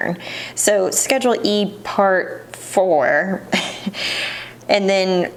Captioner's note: chuckles